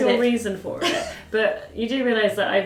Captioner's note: laughing